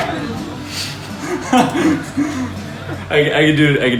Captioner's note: laughs